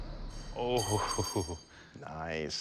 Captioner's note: clatter